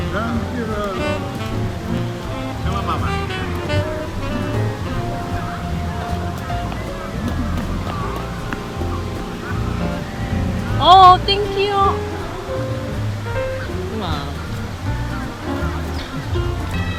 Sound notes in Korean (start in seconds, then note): 5.5 호다다닥